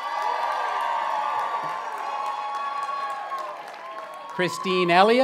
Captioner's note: cheering